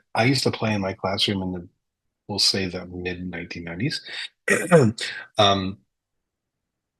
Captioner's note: clears throat